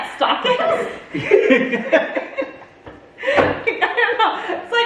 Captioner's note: family laughs